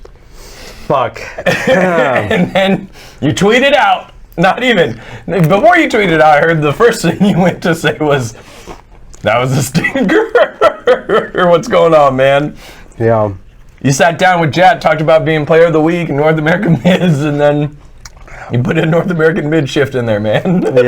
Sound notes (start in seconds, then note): 9.6 laughs